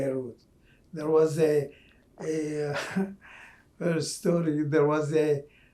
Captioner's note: laughing